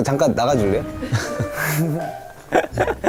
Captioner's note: haha